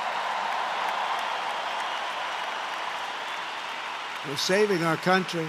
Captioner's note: applause